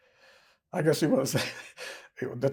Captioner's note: laughing